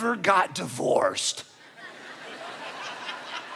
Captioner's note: audience laughing